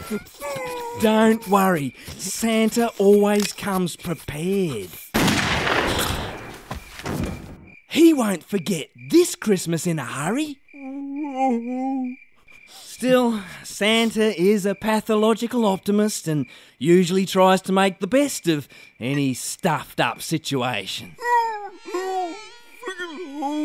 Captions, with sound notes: Don't worry, Santa always comes prepared! [GUNSHOT] He won't forget this Christmas in a hurry! [Man Crying] Still, Santa is a pathological optimist, ...and usually tries to make the best... ...of any stuffed-up situation! "Ho-Ho, ...Friggin Ho!"